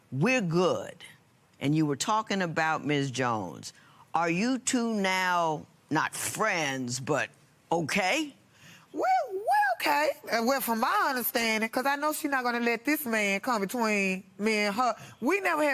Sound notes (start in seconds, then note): none